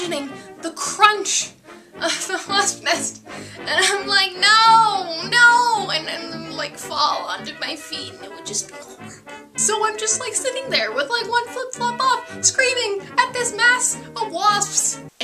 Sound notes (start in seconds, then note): 3.5 fake crying